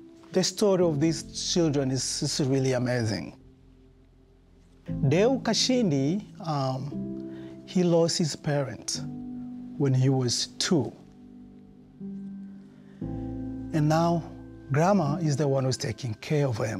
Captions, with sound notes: The story of these children is just really amazing. (speaking in foreign language) He lost his parents when he was two, and now grandma is the one who's taking care of him